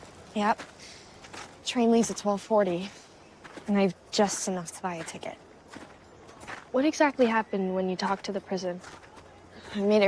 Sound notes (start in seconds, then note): none